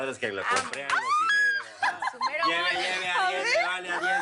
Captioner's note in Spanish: Exclamaciones y risas